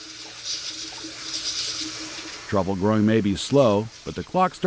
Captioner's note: water running